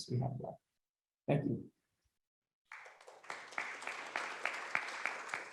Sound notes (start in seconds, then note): 2.6 applause